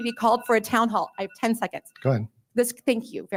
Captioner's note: timer rings